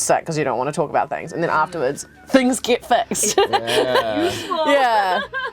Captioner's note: laughs